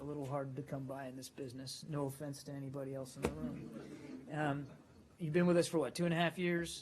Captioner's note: laughter